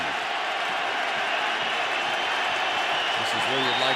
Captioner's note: cheering